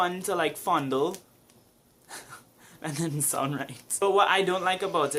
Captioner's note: chuckles